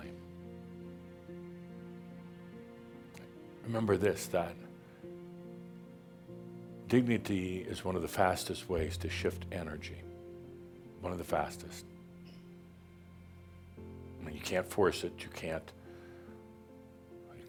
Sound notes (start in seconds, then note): none